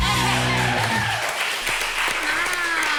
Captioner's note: applause